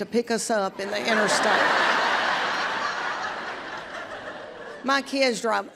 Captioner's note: audience laughs